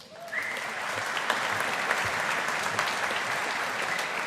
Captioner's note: audience applauding